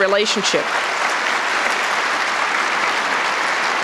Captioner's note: applause